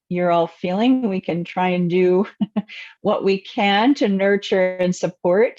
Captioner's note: chuckles